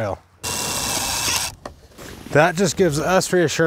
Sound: drill buzzes

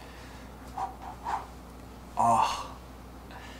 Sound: exhaling sharply; groans

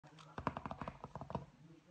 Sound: finger taps

